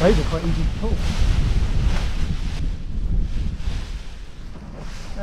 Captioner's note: parachute crinkles